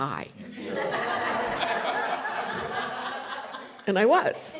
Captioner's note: laughter